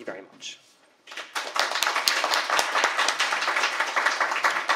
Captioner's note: applause